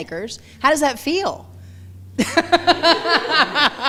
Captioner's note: laughing